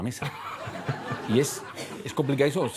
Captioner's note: laughter